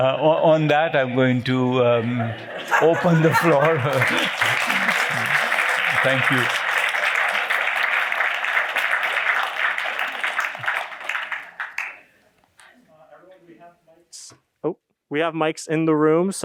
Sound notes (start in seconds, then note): 3.9 applause